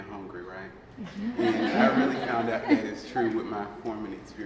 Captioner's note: laughing